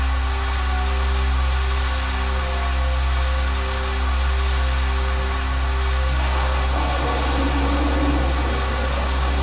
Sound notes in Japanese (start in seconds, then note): 0.0 不穏なbgm; 6.3 雷の音：ピシャ！ゴゴォ･･･; 8.7 不穏なbgm